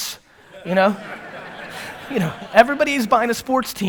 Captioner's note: audience laughter